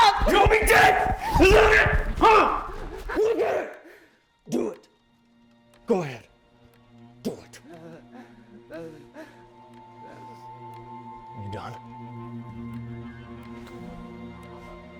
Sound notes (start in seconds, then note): 7.7 Nicki whimpering; 12.2 tense music